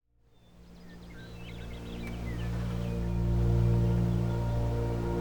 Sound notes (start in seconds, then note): 0.3 birds chirping; 3.1 calm music